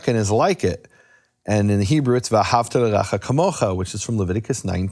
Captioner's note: speaking in foreign language